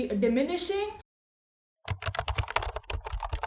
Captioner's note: typing sound